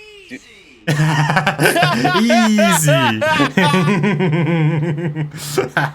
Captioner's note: laugh